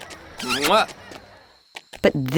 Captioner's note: gibberish speaking; lips smooching